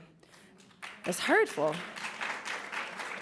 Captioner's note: applauds